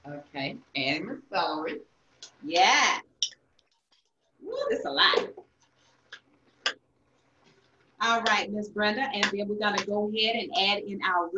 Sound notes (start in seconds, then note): 3.3 plate clinks